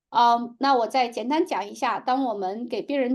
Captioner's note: speaking chinese